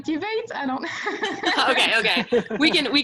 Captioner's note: laughs